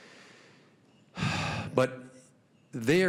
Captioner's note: exhaling